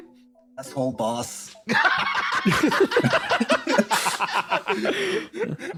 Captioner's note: laughing